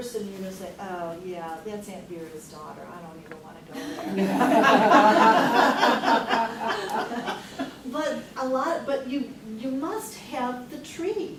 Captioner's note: laughs